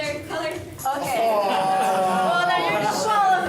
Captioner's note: laughter